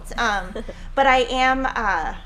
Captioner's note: laughing